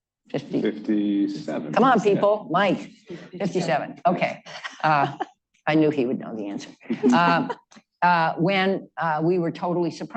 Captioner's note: laughter